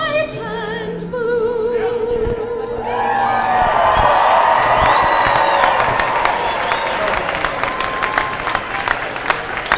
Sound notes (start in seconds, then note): 2.8 cheers and applause